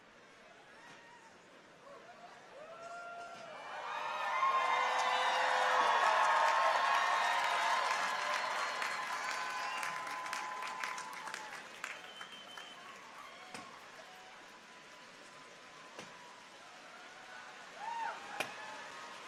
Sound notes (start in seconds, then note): 3.4 audience cheers; 3.4 audience claps